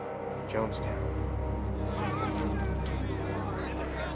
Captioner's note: crowd chattering